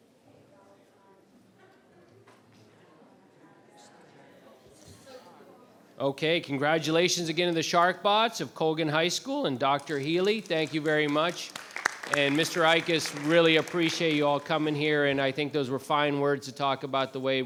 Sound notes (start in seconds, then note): 11.3 members clapping